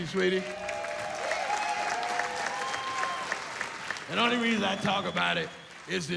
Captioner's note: cheering